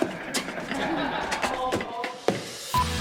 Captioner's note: laughter